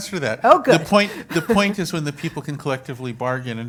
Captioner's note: laugh